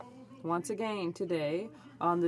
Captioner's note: speaking French